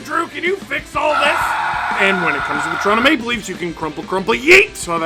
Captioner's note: screaming